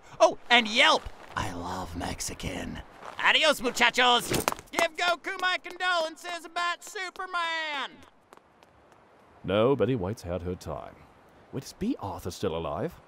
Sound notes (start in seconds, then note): 1.2 sotto voce; 4.6 shouting